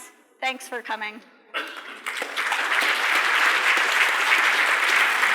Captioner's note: applause